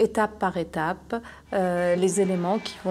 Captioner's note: horns honking